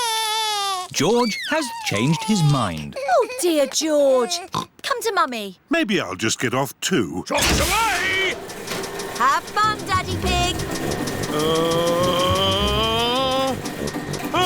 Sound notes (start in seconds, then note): 0.0 crying; 4.4 oinks